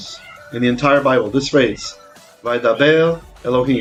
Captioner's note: Hebrew